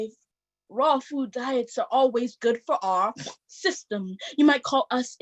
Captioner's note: snort